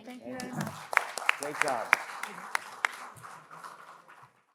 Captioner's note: audience applauds